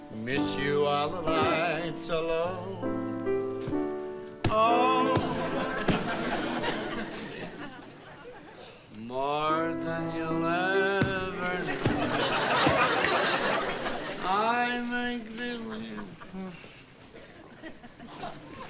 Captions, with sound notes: Miss you while the lights are low. Oh-- [THUMPING] (SINGING) More than you'll ever know. I may--